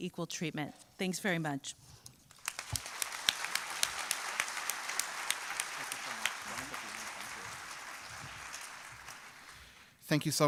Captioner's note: applause